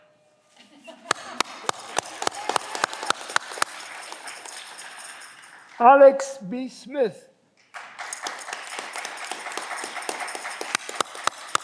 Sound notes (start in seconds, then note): 7.6 audience clapping